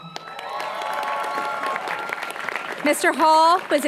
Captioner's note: applause